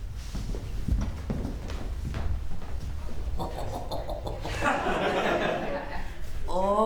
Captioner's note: chortling